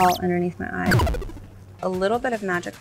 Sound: record scratch

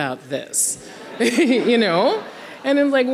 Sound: audience laughing

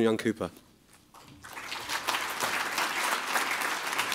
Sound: applausse

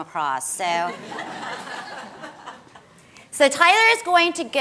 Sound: audience laughs

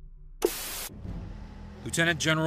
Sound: static buzzing

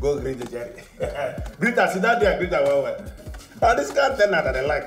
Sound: foreign language

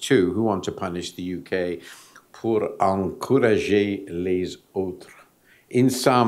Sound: speaking french

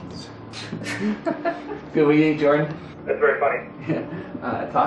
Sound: general laughter

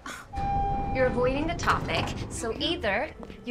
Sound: elevator beeps

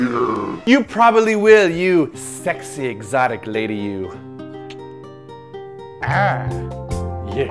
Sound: blows a kiss

